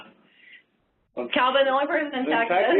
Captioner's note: laughs